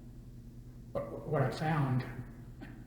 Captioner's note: laughs